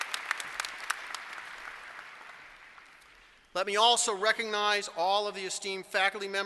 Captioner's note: applause